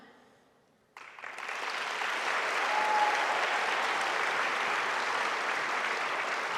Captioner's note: audience applauding; audience cheering